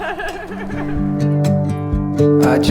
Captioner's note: laughing